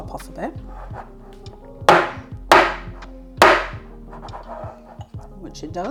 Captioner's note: bang bang bang